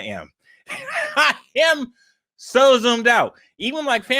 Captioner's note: laughs